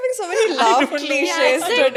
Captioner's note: laughs